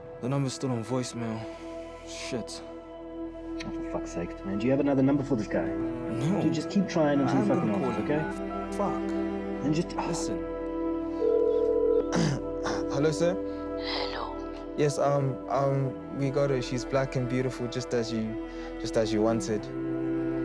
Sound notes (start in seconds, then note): 11.2 phone rings; 12.1 clears throat